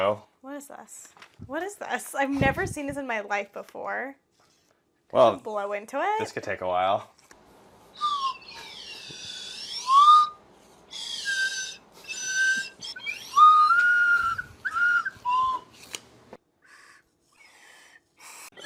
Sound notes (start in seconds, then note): 7.9 terrible cacophony of slide whistling attempts; 16.2 embarrassing silence